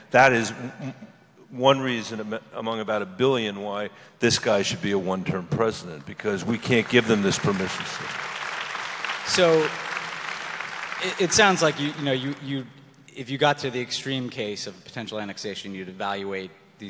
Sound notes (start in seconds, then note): 8.5 audience applause